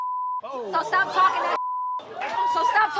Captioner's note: beep